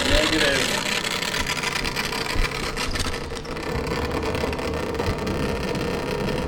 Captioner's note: machine crackling continues